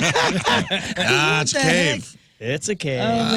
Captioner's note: laughing